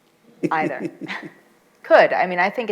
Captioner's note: chuckles